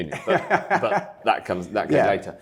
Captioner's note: laughing